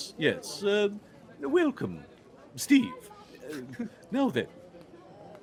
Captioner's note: Cornette laughs